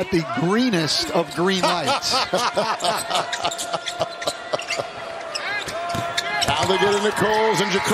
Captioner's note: laughter